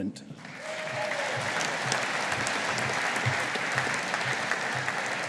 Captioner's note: audience applauding